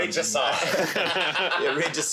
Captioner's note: all laughing